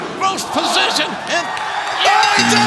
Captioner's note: bell ringing